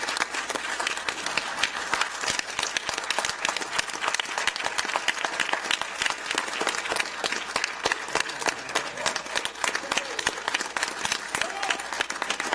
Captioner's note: applause